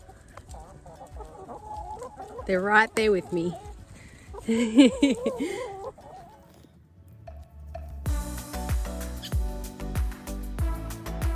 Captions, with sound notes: they're right there with me (giggles)